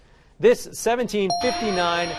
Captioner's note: alarm